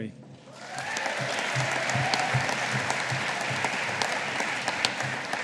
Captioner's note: audience applauding